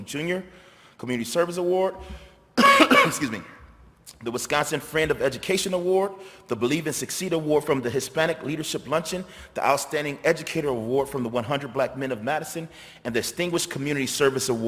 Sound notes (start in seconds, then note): 2.5 coughs